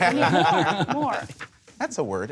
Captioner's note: laughter